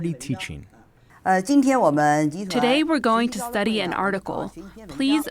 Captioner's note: through translator